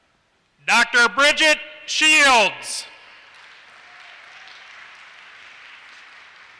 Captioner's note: applause